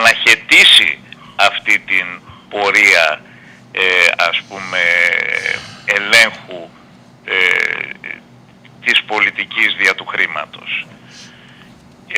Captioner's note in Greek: χαχανίζει